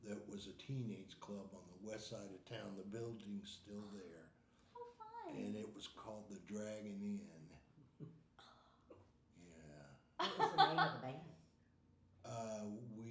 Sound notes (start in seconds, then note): 10.2 chuckling